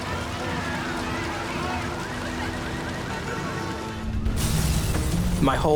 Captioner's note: horns honking; alarms blaring